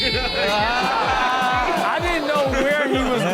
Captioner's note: kid crying